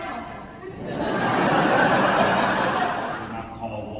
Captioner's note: laughter